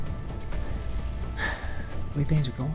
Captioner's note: sigh